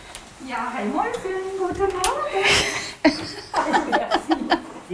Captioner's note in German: Lachen